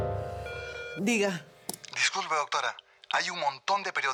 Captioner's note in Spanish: Suena el teléfono